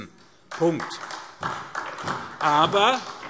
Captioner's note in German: Beifall